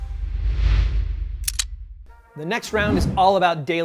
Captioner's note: clicking